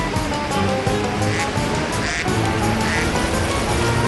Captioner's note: quacking